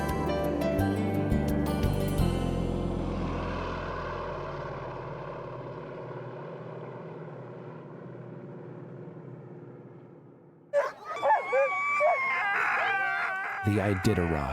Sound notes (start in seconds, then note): 3.8 airplane engine; 10.7 dogs barking